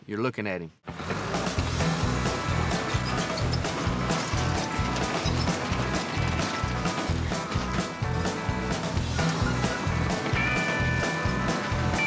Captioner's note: engine running